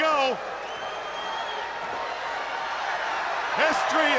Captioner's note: crowd cheering; crowd whistling